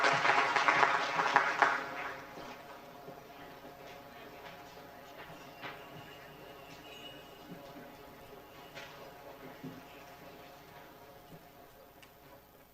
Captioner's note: applause